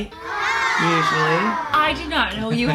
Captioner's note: children sighing; laughing